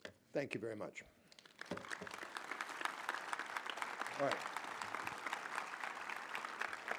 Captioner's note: applause